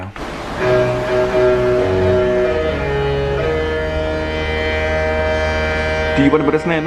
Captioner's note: ships horns blowing a Disney tune